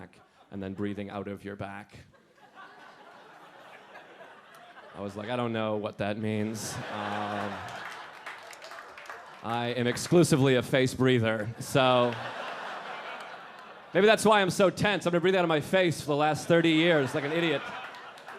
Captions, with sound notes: and then breathing out of your back." (audience laughing) I was like, "I don't know what that means." (audience laughing and clapping) "I am exclusively a face breather, so." (audience laughing) Maybe that's why I'm so tense. I've been breathing out of my face for the last 30 years like an idiot. (audience laughing)